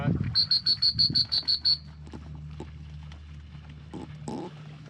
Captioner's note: whistle blowing